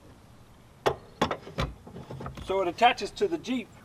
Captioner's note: metal clunking